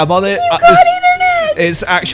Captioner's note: squealing